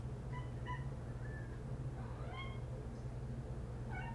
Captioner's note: Pie meows